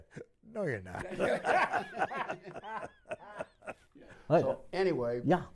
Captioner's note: laughter